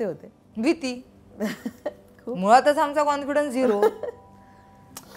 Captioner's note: Chuckles